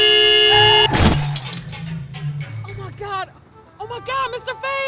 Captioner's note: horn honking